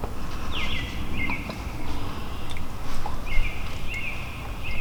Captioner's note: bird chirping